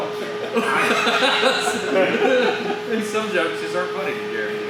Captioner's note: laughs loudly